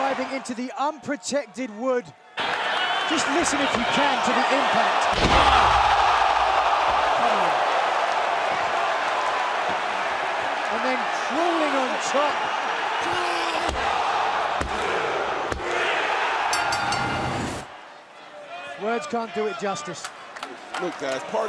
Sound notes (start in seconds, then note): 15.4 crowd cheering; 16.5 bell ringing